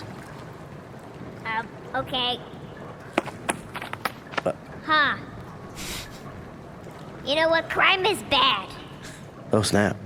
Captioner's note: footsteps